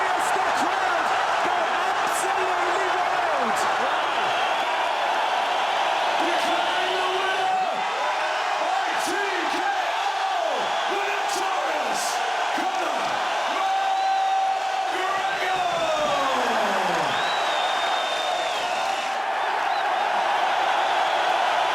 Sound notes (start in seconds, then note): 3.6 cheering; 16.0 cheering